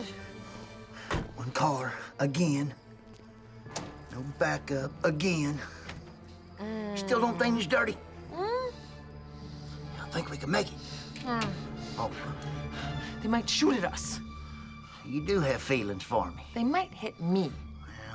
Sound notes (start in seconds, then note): none